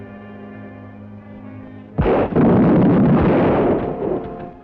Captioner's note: gun bangs